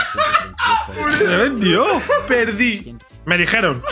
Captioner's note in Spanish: balbucea